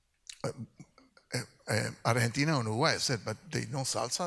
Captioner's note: speaks in Spanish